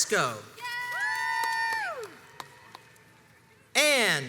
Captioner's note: crowds cheers and applauds